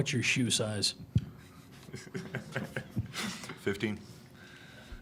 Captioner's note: giggles